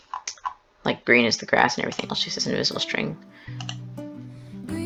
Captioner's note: click